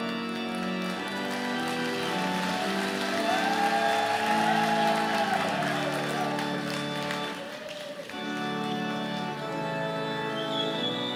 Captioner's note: cheers and Applause